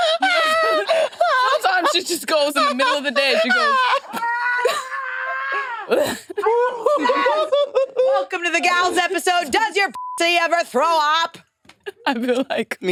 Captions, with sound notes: (participants laughing) Sometimes she just goes in the middle of the day. She goes. (participants laughing) - Welcome to the gals episode. Does your pocket ever throw up?